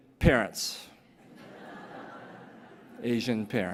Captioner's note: laughter